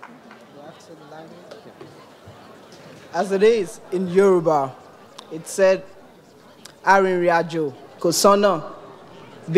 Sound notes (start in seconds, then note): 4.6 speaks in foreign language